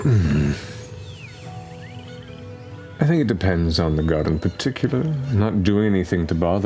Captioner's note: hums